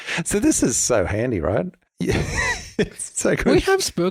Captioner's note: laughs